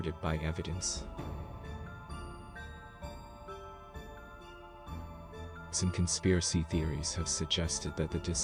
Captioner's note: voice-over